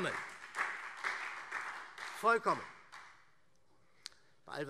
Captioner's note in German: Beifall SPD